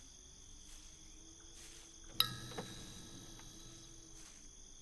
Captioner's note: crickets chirping